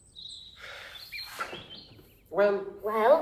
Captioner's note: sighs